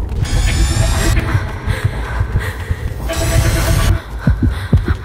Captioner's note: Heartbeat; Gasping